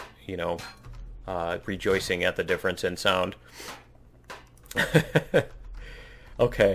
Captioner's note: laughs